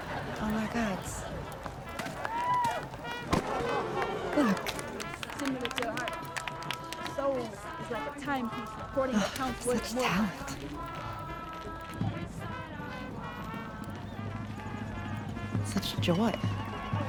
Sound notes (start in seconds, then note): 7.2 woman reciting poetry; 9.2 sighs